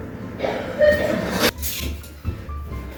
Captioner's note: a neighbour choking violently